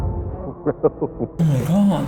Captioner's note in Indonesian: tertawa